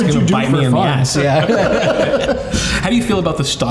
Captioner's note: everyone laughing